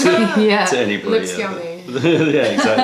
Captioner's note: laughter; laughter